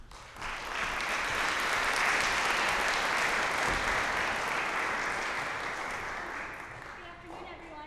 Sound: applause

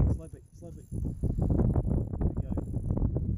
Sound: line whirring

